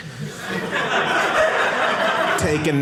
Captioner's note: audience laughing